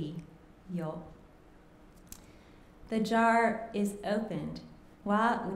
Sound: speaking japanese

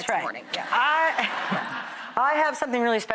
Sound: audience laughing

